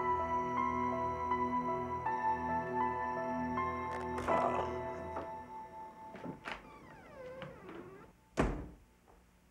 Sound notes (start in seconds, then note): 4.0 groans